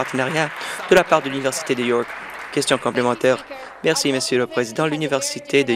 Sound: some Applause

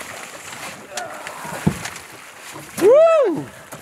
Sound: boat engine rumbling; grunting

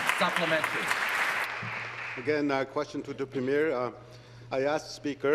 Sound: some Applause

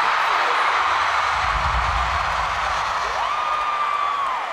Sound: crowd cheering

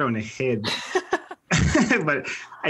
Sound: laugh

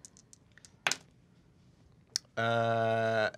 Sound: die rattles

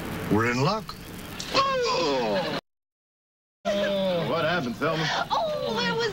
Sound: groans

